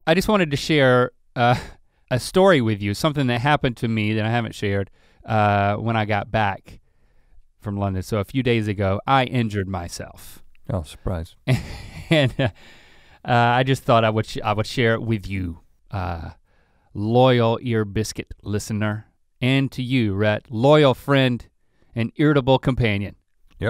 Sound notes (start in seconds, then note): 11.4 Link chuckles